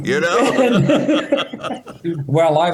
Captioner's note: laughter